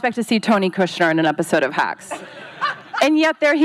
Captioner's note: laughing